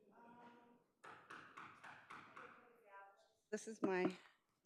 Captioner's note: gavel thudding